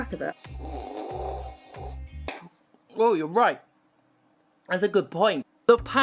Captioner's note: sluuurp